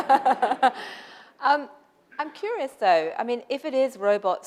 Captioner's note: laughter